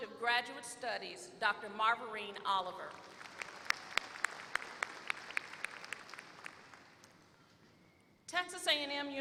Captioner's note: applause